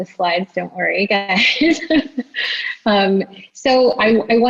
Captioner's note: laughs